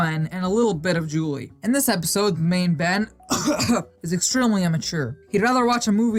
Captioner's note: cough